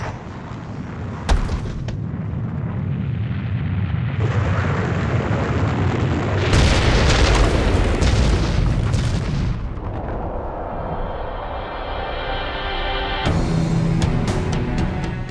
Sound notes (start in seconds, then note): 0.1 increasing rumbling; 4.1 roaring of magma and explosions